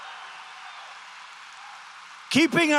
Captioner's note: applause